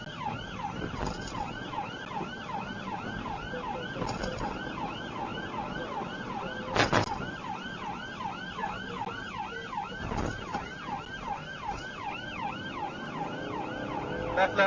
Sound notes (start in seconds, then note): 6.9 car clunks over speedbump; 12.2 engine accelerates